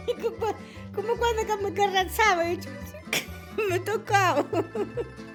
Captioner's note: speaking in foreign language